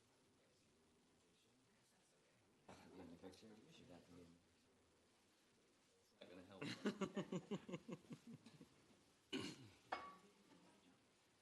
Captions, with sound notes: It's not going to help. [laughs]